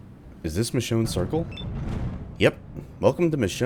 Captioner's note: thunder